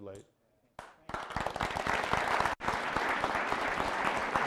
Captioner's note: applause